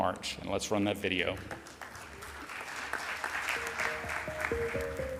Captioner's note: audience applauds